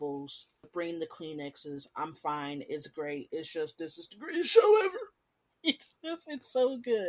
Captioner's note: laughs